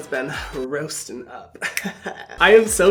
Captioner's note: chuckling